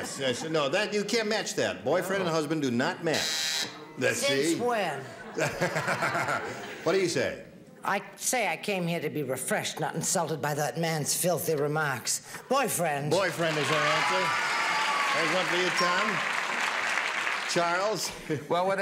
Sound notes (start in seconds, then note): 3.2 buzzing